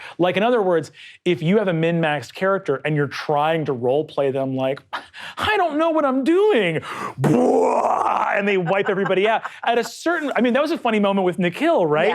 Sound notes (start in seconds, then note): 7.4 imitates explosion pounding; 8.2 laughing